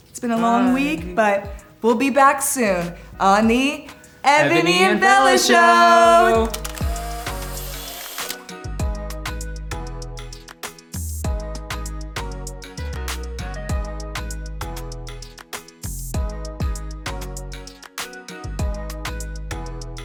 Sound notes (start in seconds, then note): 6.4 camera clicks; 11.4 gentle music